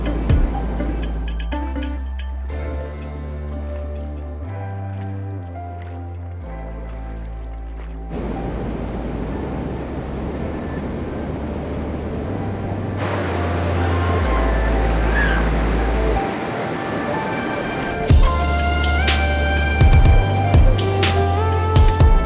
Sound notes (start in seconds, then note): 0.0 downtempo music continues; 8.8 waves lightly crashing; 18.5 downtempo music continues